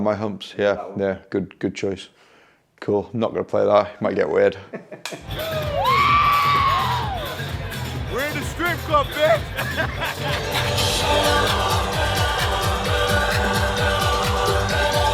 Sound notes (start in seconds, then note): 4.6 snickers; 5.2 crowd cheers; 8.7 laughs; 10.8 high-energy techno music